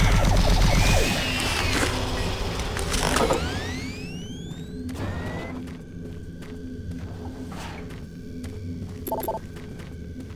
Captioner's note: gun firing; beeping